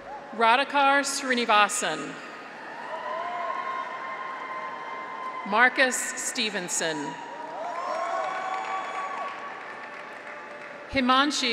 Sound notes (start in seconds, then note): 0.0 graduates cheer; 3.2 graduates cheer; 7.2 audience applauds; 8.0 graduates cheer